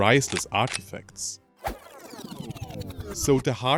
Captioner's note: record Scratch